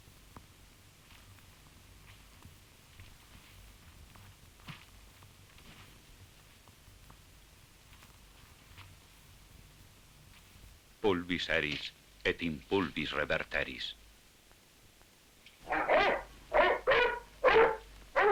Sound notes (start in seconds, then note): 11.0 father speaking in Spanish; 15.6 dog barking